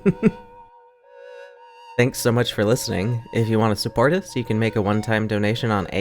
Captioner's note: laughs